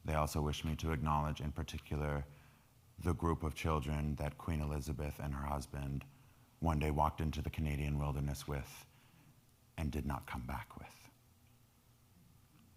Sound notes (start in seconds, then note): none